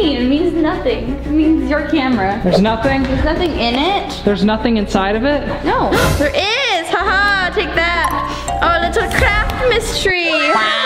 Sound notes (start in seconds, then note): 7.1 laughs